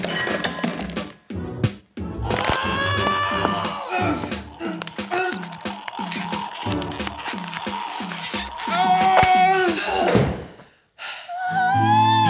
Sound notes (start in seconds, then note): 2.3 shrieks; 8.5 groans